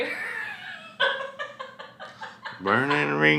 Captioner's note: laughs